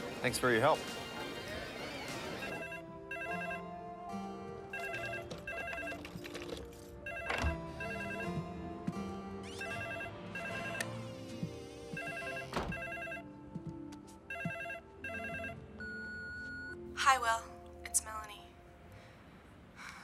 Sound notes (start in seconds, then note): 2.7 peaceful orchestral music; 2.7 telephone rings; 11.9 telephone rings; 15.8 telephone bleeps